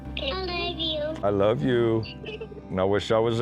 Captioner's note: girls giggle